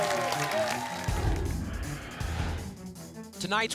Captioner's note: whoosh